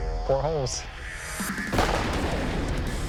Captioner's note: gunshot